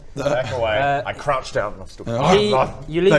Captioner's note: growls